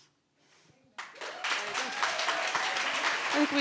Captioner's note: audience applauding